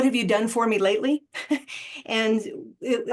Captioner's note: laughter